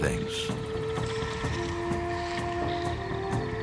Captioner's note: birds chirping